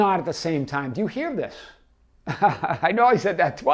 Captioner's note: laughs